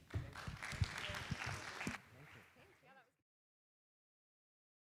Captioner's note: audience applauding